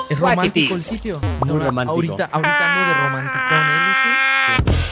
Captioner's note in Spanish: llora